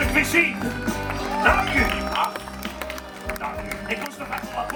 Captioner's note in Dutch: applaus